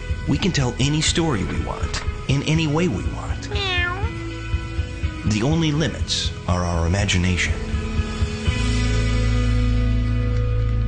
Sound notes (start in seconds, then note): 3.4 cat's meow